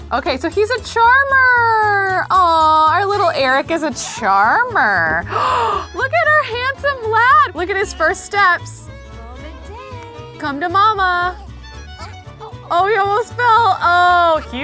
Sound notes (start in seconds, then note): 5.2 gasps